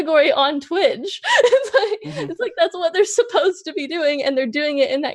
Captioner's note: laughs